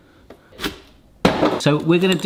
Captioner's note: box dropping